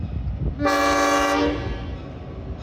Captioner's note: short horn